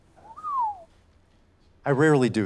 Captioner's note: whistles